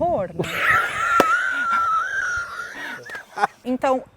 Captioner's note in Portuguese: risos